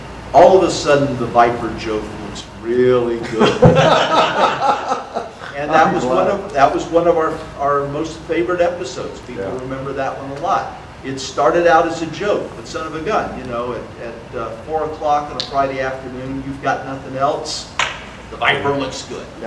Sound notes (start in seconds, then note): 3.3 audience laughter